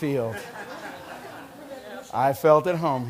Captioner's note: laughter